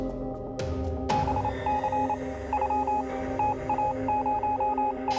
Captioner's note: radar beeping